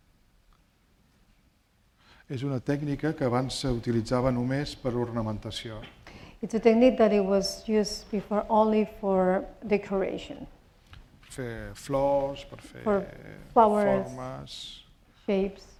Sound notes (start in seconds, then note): 2.7 speaking spanish